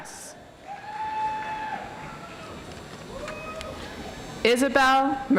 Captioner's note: audience applauds